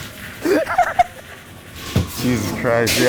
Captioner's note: creature groaning; laughing